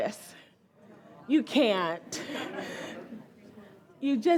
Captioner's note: audience laughs